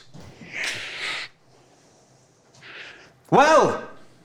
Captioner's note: Shylock deeply inhales